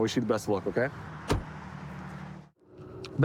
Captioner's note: door bangs